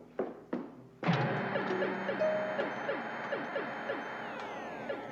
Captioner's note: bleeps and blasts from video game